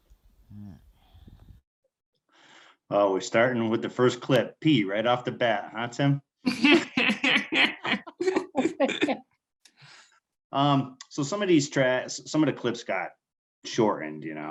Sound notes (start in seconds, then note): 6.4 laughing